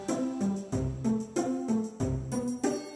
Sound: Chiro hisses

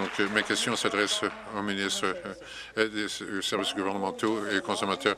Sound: applause

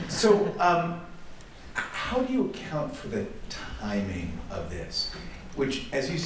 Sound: laughter

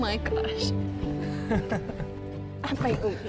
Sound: Jeff laughs

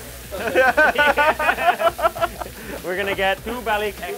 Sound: laughing

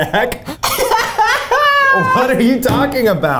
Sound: laughs

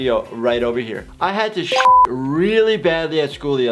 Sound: notification dings

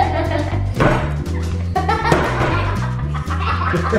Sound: laughing

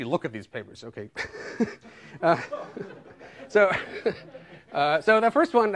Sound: laughter

